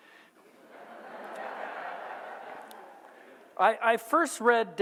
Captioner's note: audience laughs